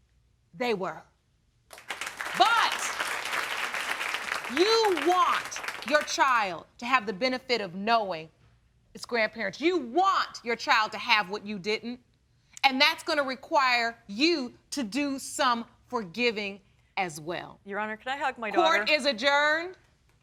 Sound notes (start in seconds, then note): 1.7 audience applauding